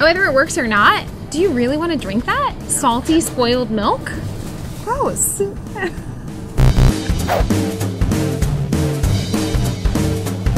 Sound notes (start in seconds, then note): 6.5 buzzing; 6.5 energetic music